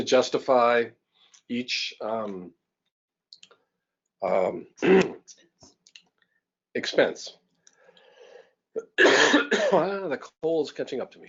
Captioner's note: cough